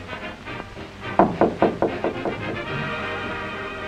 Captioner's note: knocks on door